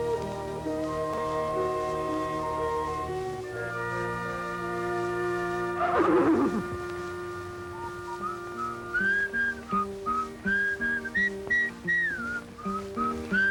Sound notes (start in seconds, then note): 5.8 neigh; 7.7 whistling